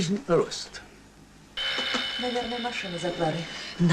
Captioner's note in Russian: звонок в дверь